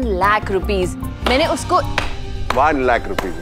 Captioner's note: Claping